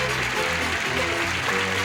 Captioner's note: applause